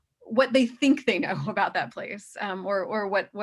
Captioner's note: chuckles